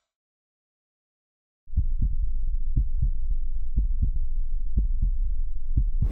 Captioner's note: heartbeat